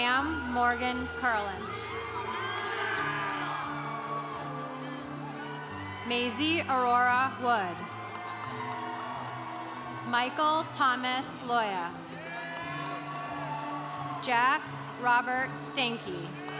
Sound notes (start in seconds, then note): 2.1 congregation cheering; 7.0 congregation cheering; 12.1 congregation cheering